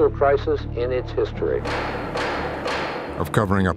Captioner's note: gavel bangs